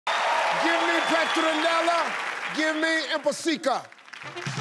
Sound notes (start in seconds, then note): 0.0 cheering